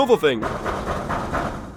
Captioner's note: door knocking